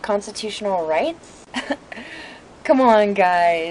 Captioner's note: laughs